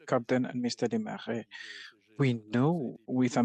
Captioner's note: speaking French